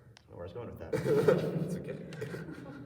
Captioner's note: laughter